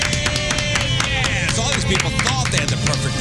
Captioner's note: clapping